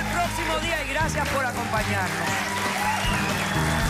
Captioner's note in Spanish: Aplausos